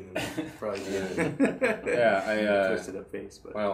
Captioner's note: laughing